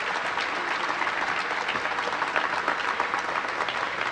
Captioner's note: applause